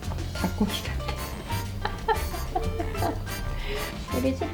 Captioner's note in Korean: 웃음